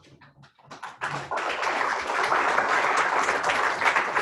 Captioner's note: applause